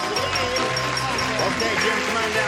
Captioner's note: ding